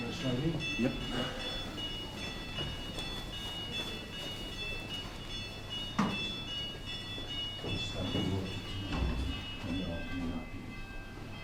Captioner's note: bells ringing